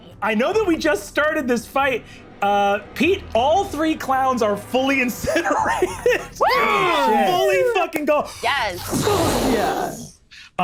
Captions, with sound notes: I know that we just started this fight. Pete, all three clowns are fully incinerated. (laughs) (group exclaiming) - Holy shit! - Fully fucking gone. - Yes. (roars) - Fuck yeah.